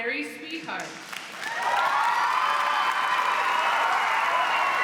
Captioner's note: cheers, applause